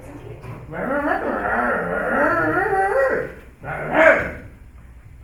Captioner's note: Gustav speaks in Zomblish